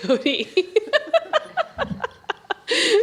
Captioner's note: laughter